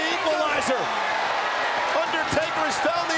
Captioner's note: audience cheers